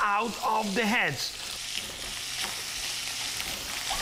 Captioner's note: sizzling